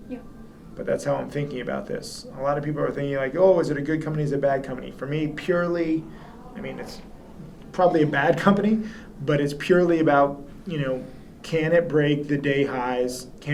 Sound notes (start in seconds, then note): 8.8 chuckles